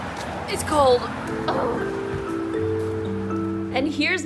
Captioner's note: groans